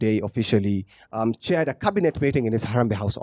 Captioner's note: none